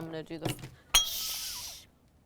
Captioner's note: glass breaking